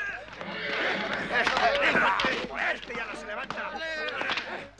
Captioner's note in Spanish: gritan